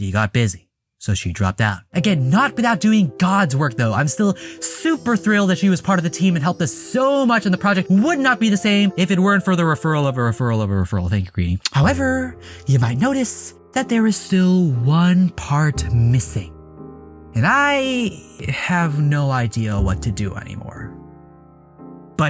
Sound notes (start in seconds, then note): 11.6 smooch